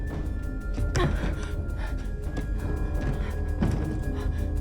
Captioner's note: Bryn huffing